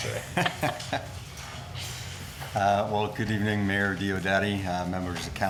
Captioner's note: laughs